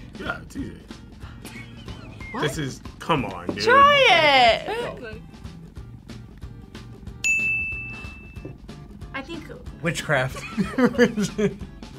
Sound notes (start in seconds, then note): 7.2 bell rings; 10.4 laughs